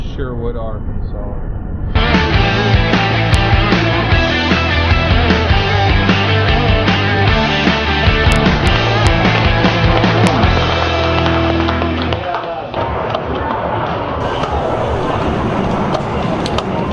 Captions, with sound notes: Sherwood, Arkansas. (energetic rock music) (participants applauding) (buttons clicking)